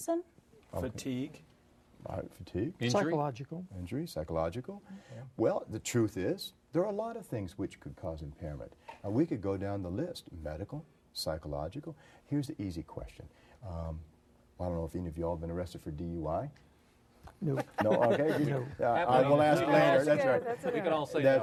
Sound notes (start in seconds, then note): 19.4 group laughter